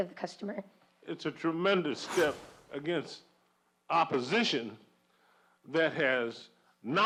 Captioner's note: voiceover